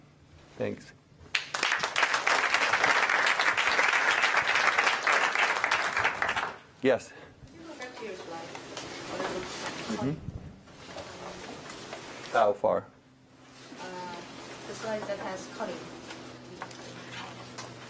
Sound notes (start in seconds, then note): 1.3 applause